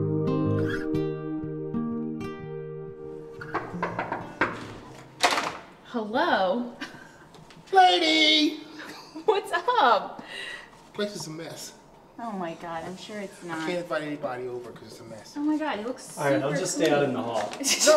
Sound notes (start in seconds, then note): 3.4 knocking on door